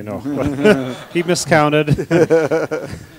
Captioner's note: laughter